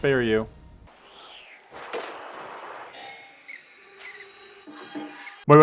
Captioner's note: rat noises